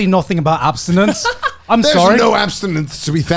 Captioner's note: laughs